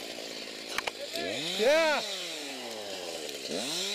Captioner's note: chainsaw